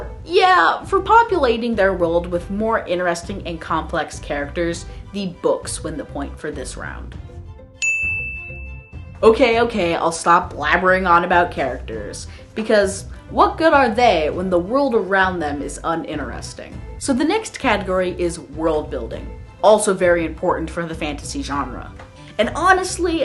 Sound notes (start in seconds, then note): 7.8 ding